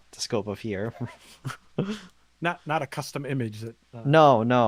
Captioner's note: laughs